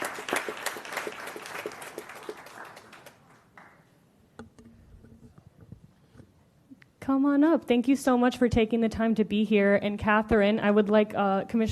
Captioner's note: applause